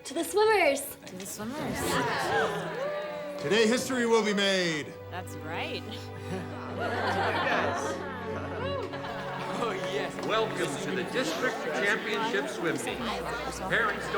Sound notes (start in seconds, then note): 1.7 class cheers; 6.2 class laughs